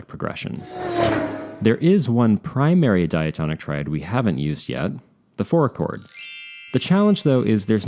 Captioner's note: chime